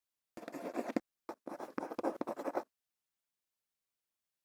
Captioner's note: quill scratching